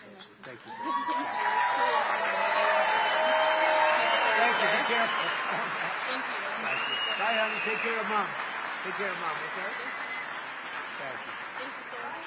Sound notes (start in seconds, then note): 0.7 laughter; 8.7 applause